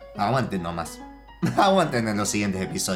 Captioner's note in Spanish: Risas :v